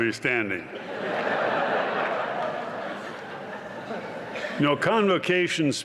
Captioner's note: laughter